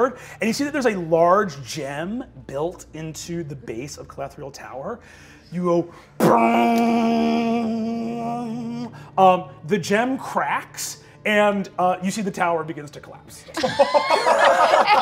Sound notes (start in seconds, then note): 5.9 imitates guitar strum; 13.5 all laugh